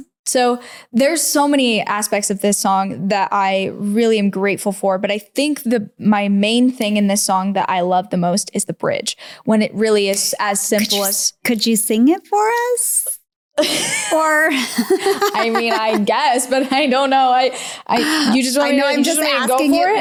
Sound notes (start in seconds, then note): 13.6 laughs